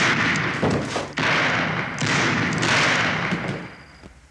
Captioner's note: gunshots